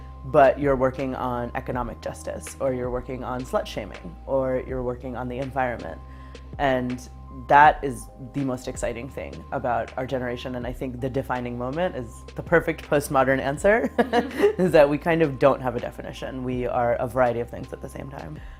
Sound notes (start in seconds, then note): 13.9 laughs